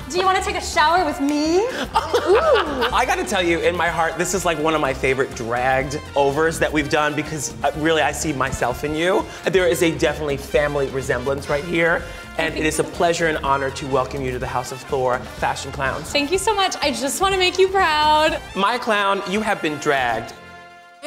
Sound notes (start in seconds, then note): 1.6 laughs